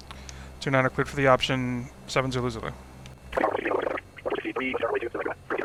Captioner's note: me on radio